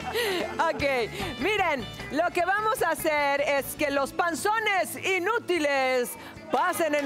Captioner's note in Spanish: Risas